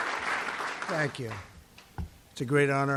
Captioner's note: applause